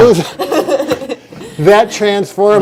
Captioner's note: laughing